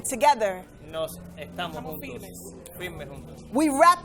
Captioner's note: and interpreter speaking in foreign language